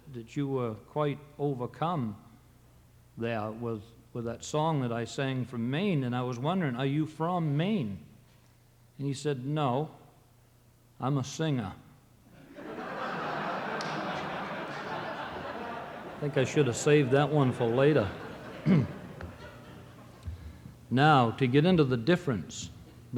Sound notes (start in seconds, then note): 12.4 audience laughing